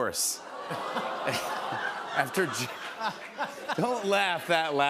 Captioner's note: laughter